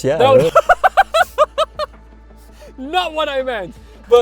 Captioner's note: laughs